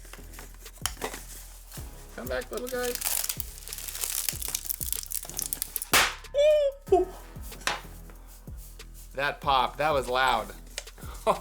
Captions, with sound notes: Come back, little guy. (balloon popping) (squeal) That popped, that was loud.